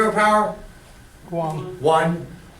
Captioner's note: voiceover